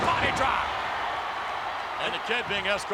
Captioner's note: audience cheers